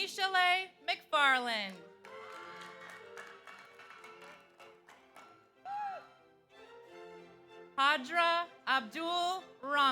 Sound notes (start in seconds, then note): 1.8 audience applauds; 2.1 audience cheers